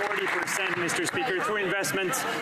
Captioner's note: some Applause